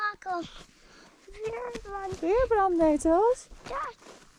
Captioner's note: speaking dutch